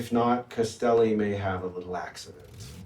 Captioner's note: car engine revs